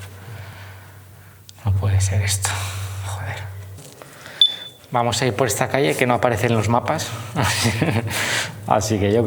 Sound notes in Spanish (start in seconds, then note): 7.2 risas